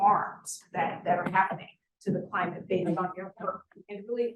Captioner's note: sound distorted